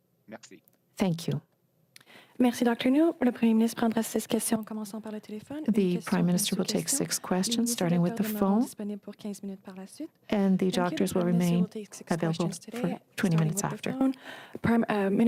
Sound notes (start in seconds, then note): 10.5 speaking french